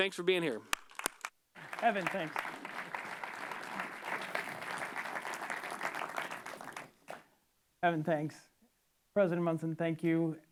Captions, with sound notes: Thanks for being here. Kevin, thanks. [APPLAUSE] Kevin, thanks. President Munson, thank you.